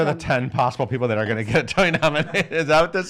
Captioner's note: laughs